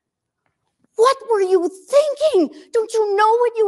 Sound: none

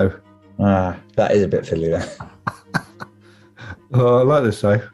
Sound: chuckling

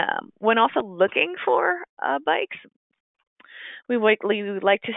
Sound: slurs words

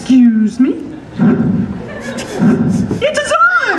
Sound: audience laughter

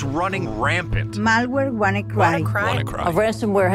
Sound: reporter 2 speaking in Spanish

